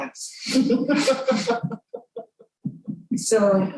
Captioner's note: laughter